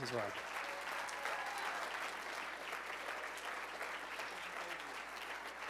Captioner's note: cheers and applause